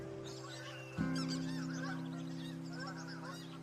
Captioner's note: birds chirping